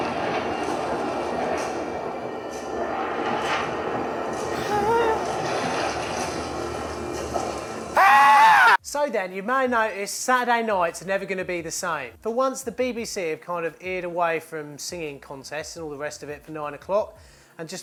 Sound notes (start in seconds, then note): 0.0 intensifying music; 4.5 whimpers; 7.9 screams